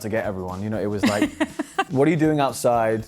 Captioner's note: laughing